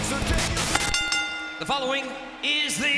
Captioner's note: bell chimes